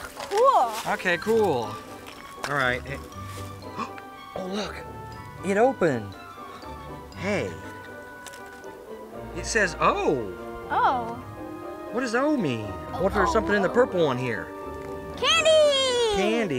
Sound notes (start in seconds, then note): 3.6 gasps